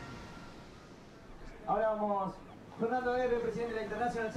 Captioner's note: man in Spanish